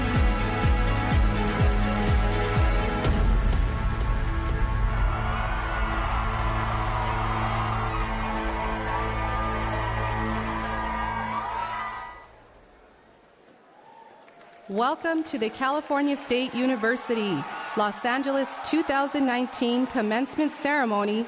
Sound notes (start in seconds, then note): 5.2 cheering and Music